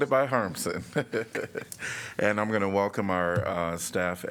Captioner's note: laughter